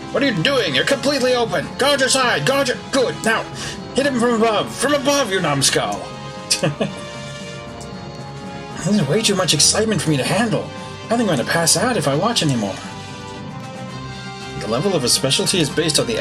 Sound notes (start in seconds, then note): 6.5 chuckles